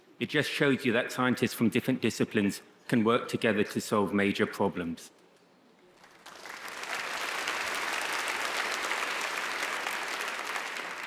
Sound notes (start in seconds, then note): 6.0 audience applauds